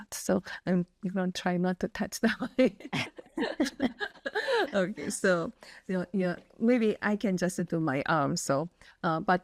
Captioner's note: laugh